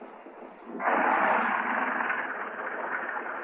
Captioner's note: truck rattling